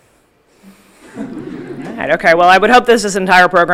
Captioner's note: audience laughing